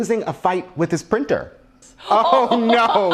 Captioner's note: laughs